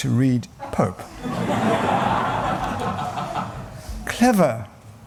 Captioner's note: laughter